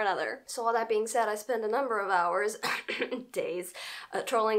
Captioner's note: cough